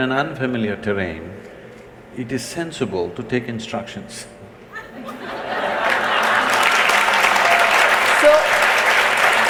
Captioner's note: laughter/Applause